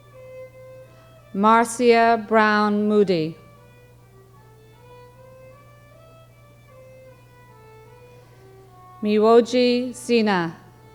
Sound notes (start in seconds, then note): none